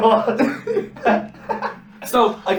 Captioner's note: laughs